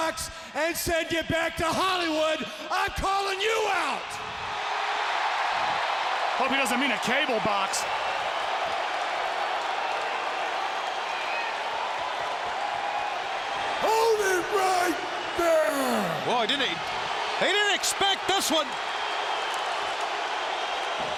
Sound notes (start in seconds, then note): 5.7 audience cheering